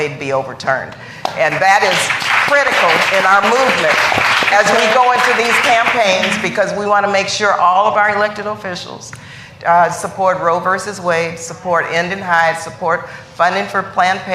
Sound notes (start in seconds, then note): 5.0 applause